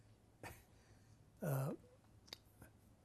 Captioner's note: laughs